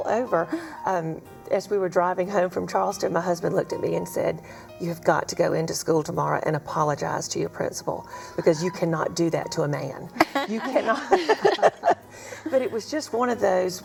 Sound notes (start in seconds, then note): 10.2 laughter